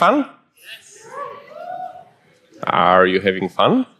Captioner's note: audience clamors